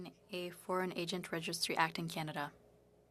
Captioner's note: speaking French